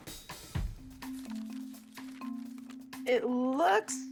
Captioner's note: pages flipping